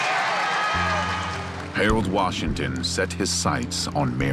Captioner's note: crowd cheering